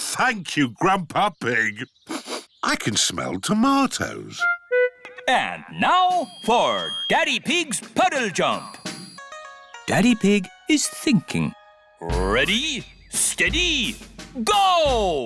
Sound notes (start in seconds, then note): 2.0 sniffs